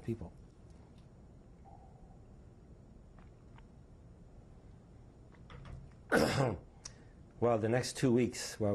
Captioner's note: drinks